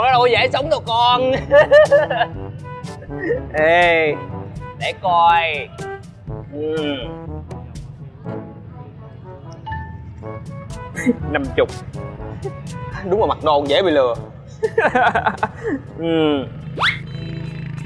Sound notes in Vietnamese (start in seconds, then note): 1.3 Tiếng cười